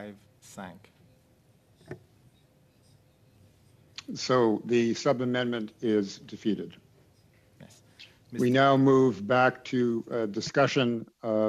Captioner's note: speaking French